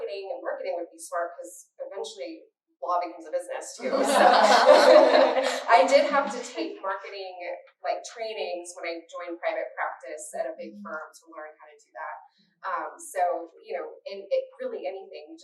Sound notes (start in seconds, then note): 3.8 laughter